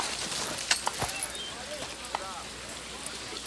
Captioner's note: chain clinks